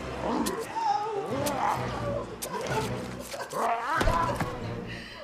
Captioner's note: Dr. Damian whimpers; JUJU grunting; knife slashes; JUJU thuds